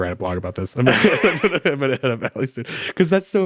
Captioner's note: both laugh